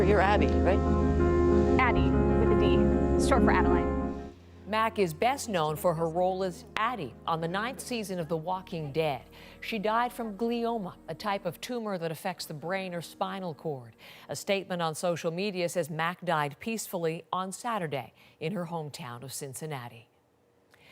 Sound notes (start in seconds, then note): none